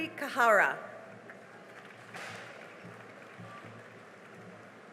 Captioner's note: cheering and applause